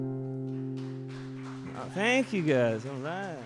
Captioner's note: audience applauds